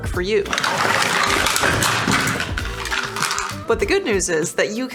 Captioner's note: holsters clattering